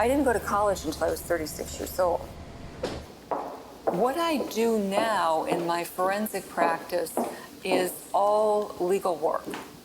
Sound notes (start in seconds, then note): 2.8 car door slams; 2.8 footsteps tapping